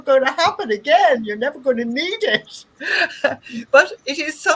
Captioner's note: laughs